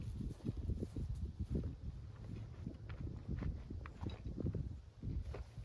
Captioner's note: footsteps